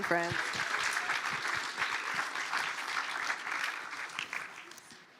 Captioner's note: applause